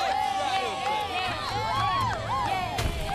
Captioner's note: cheering